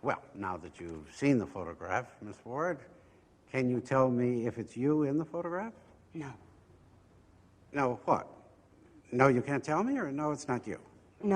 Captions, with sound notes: Well, now that you've seen the photograph, Ms. Ward, can you tell me if it's you in the photograph? - [Pat] No. - No. What? No you can't tell me, or no, it's not you?